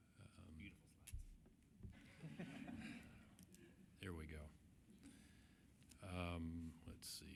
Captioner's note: laughter